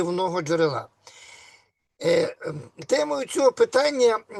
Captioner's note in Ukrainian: прочищення горла